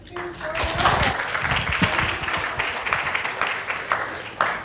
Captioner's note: applause